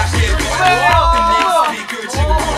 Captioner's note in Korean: 박수!